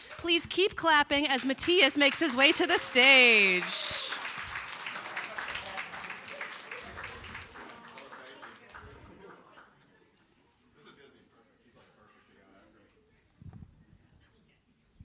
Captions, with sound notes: Please keep clapping as Matias makes his way to the stage. (audience applauding) (people chattering)